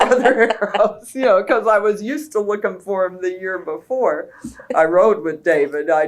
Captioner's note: laughter